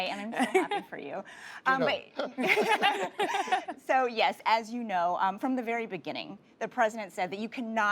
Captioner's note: laughter